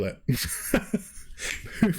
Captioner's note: laughs